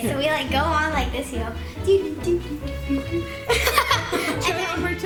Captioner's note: laughs